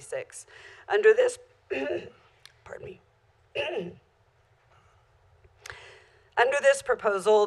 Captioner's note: clears throat